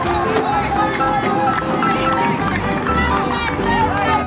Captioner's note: people cheering